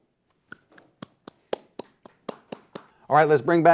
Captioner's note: audience member clapping